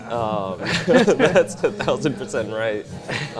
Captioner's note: laughs